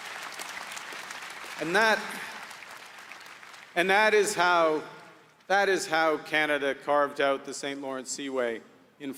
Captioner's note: applause